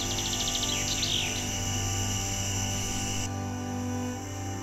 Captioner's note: birds chirping